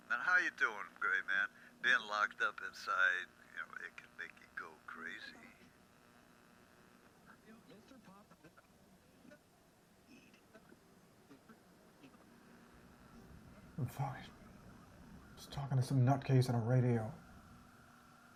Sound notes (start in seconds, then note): 7.6 stations tuning